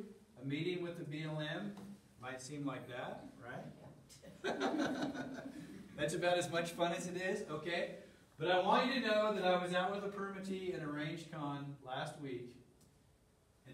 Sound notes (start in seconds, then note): 4.3 laughter